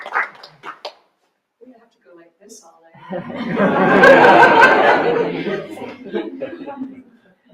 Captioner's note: applause; audience Laughter